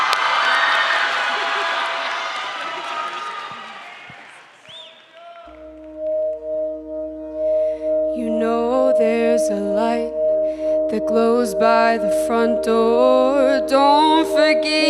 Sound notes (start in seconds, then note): 3.9 applause